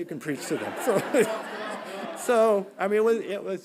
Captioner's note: audience laughing